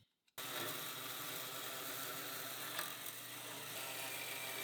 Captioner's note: tool humming